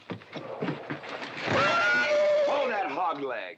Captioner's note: scuffling; horse neighing loudly